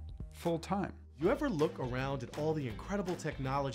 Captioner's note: voiceover